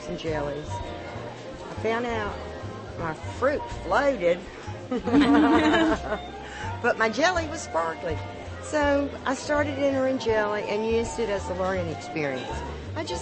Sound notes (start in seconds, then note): 4.9 laughter